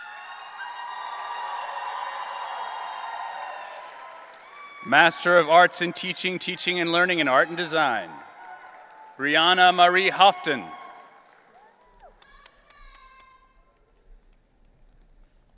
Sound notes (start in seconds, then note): 0.1 audience cheering; 11.8 audience cheering